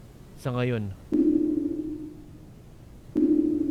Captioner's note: strange echoing noise